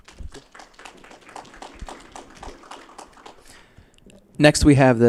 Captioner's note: applause